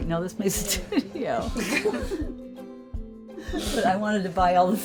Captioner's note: laughs